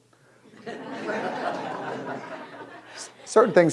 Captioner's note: audience laughing